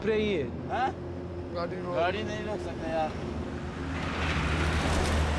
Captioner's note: men speaking native language